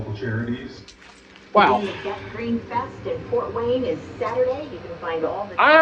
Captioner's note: TV continues playing in background